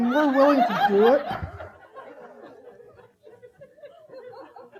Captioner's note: audience laughing